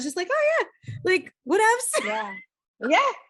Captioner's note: laughs